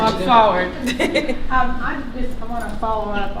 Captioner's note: laughter